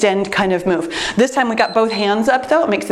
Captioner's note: timer beeps